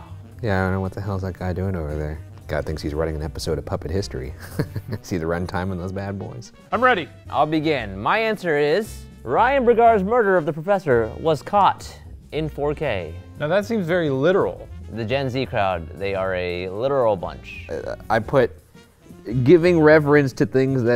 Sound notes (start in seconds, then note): 4.3 laughs